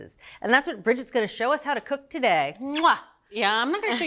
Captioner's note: smooches a kiss